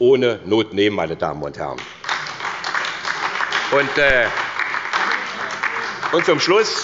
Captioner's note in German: Beifall bei der SPD